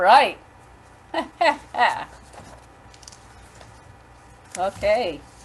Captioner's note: laughs